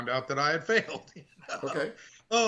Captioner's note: laughing